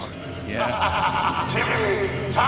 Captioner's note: Old Chrismas Man's laughter